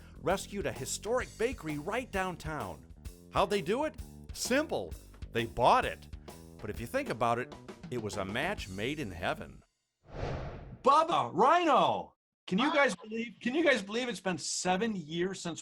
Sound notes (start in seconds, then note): 10.1 whooshing